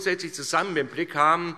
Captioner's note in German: none